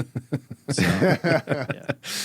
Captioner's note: laughing